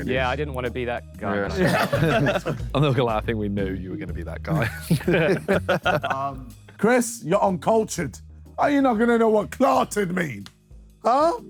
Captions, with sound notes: - Yeah, I didn't wanna be that guy. [Sidemen laugh] - I'm not gonna lie, we knew you were gonna be that guy. [Sidemen laugh] - Chris, you're uncultured. How you not gonna know what clarted mean, huh?